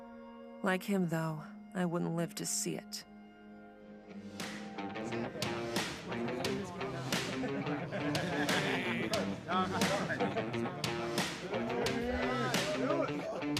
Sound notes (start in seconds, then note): 4.1 bright upbeat music begins; 6.7 Kurt and his friends murmuring